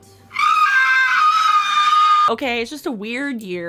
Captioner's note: screaming